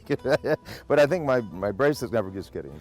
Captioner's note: laughs